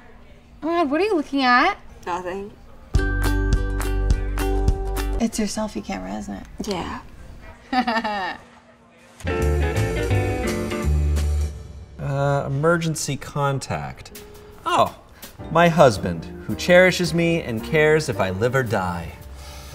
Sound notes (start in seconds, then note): 2.9 light music; 7.6 laughs; 9.2 smooth music; 19.3 exhales